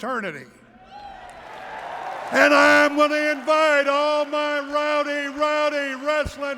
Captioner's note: applause